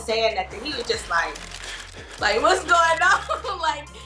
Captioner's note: laughing